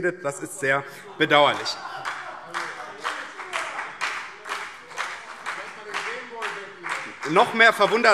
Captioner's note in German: Beifall BÜNDNIS 90/DIE GRÜNEN und CDU - Lachen SPD und Freie Demokraten